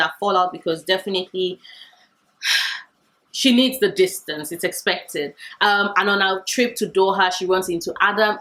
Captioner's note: sighs